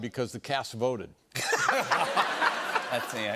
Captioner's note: laughter